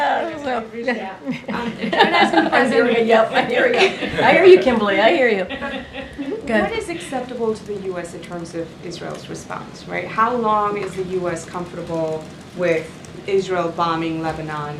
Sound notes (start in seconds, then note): 1.2 laughs